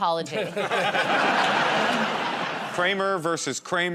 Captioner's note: laughter